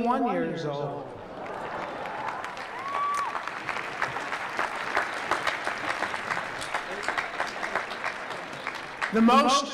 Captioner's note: applause